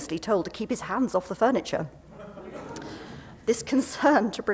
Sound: laughter

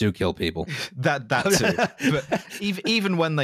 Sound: laughing

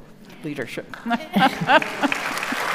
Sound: audience applauding

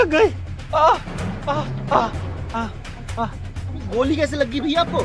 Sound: shouting

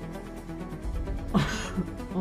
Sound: laughs

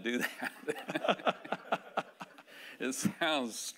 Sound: laughing

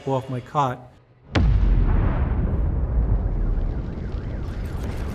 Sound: bomb explodes

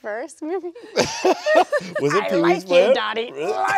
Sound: people laughing

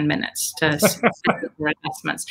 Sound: laughs

